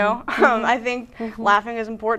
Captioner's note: laughing